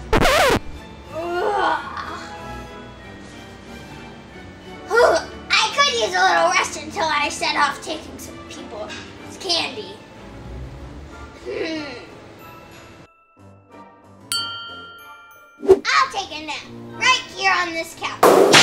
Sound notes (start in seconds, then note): 0.6 assistant yawns; 14.3 bell dings; 18.2 whip cracks